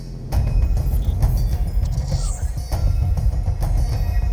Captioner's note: holopad disconnecting